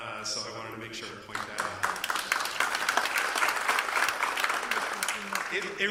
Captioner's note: applause